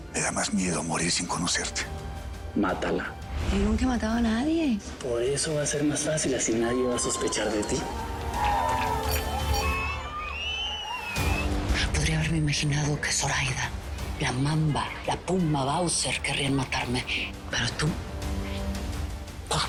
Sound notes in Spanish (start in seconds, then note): 6.6 Gritos y exclamaciones; 9.5 Aplausos